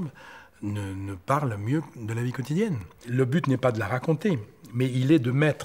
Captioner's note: French spoken audio